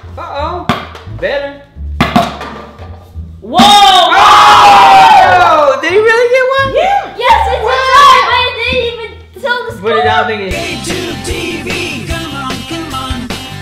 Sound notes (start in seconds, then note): 3.6 cheering screams